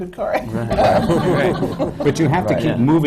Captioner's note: laughter